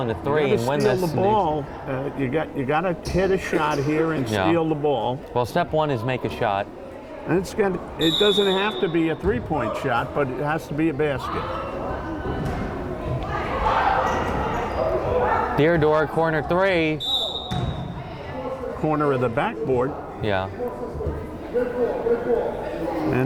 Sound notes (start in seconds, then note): 12.3 crowd chattering and yelling; 17.0 whistle blowing